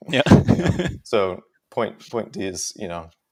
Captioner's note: laughs